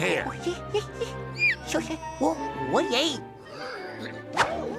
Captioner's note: jabbering